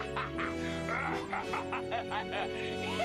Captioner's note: laughing